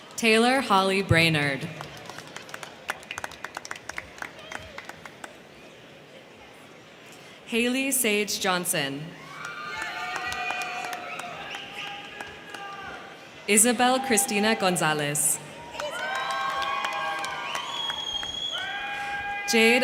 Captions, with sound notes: Taylor Holly Brainard. (crowd cheering) (crowd clapping) Haylie Sage Johnson. (crowd cheering) (crowd clapping) Isabel Christina Gonzalez. (crowd cheering) (crowd clapping)